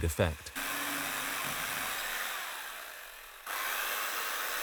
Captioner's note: chainsaw buzzing